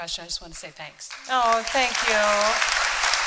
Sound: applause

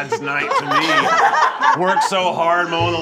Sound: judges laughing

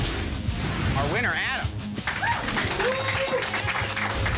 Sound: applause

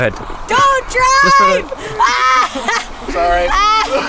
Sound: yells

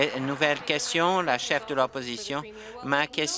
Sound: applause

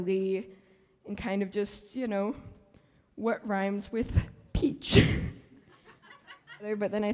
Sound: laughs

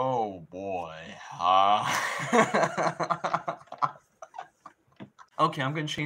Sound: insert more laughing

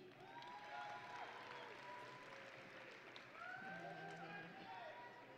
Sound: audience and graduates cheering

